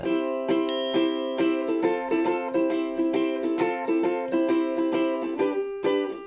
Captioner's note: upbeat music; chimes